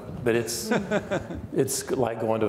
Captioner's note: laughing